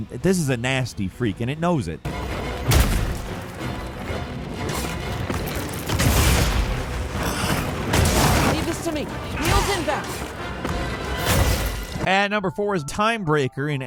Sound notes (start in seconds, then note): 2.4 dramatic music; 2.7 weapon thumping